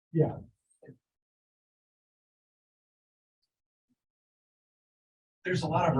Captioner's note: audio drop